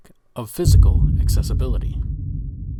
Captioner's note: deep distant explosion